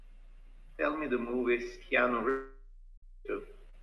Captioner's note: audio distorting